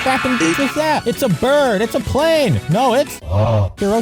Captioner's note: augh sound effect